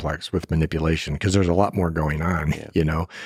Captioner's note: laughs